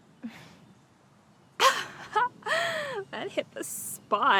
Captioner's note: Donna laughing